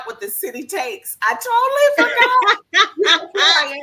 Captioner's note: laughs